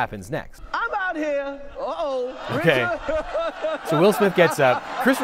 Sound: Chris chuckles

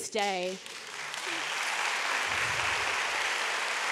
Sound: audience applauds

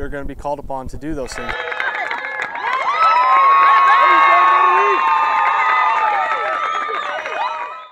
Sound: crowd cheering

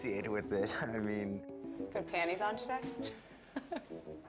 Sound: laughs

